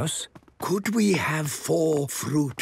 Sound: speaking quietly

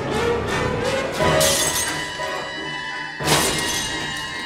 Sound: shattering

